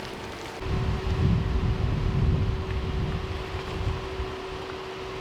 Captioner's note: wind whooshing